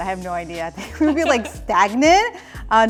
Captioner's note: laughs